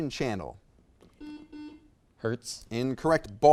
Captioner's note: buzzer beeps